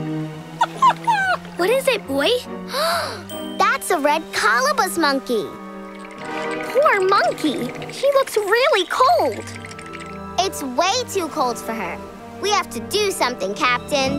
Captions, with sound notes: [whimpering] What is it, boy? [gasping] That's a Red Colobus Monkey. Poor monkey. She looks really cold. It's way too cold for her. We have to do something, Captain.